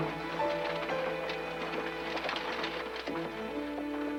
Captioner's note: wagon rattling